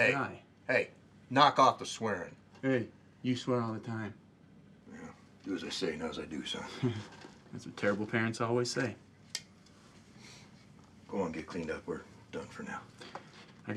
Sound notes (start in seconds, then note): 6.6 chuckles